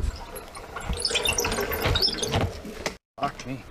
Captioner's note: bicycle squeaking